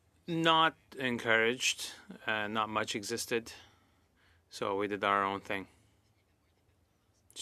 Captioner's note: speaking French